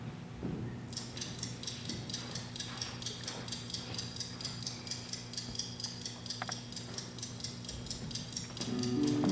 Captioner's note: clock ticking; melancholy music